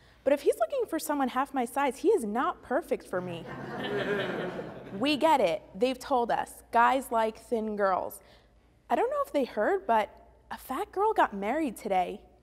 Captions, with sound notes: but if he is looking for someone half my size, he is not perfect for me. [Audience Laughing] We get it. They have told us, guys like thin girls. I don’t know if they heard, but a fat girl got married today,